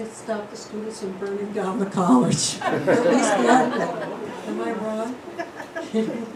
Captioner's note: laughter